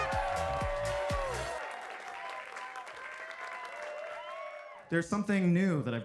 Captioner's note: audience cheering and applauding